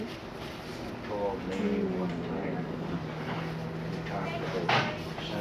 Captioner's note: moaning Softly